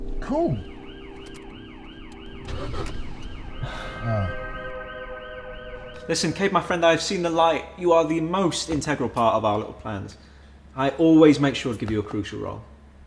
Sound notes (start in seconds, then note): 0.2 police sirens approaching; 1.9 car engine stalls; 3.6 sighing